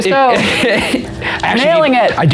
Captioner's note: laughing